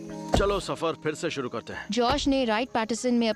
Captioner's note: narrating